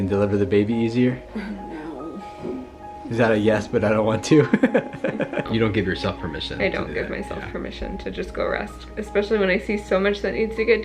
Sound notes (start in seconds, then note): 4.2 laughs